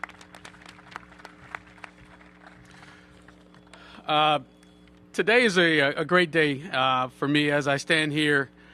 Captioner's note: applause